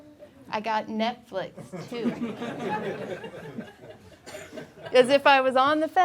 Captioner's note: laughing